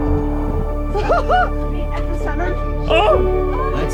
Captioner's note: laughs